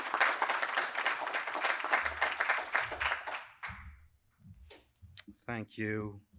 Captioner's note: applause